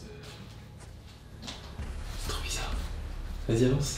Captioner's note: whispers